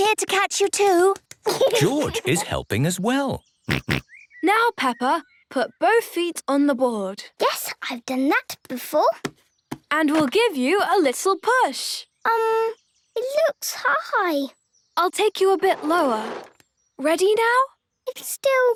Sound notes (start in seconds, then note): 3.7 snorts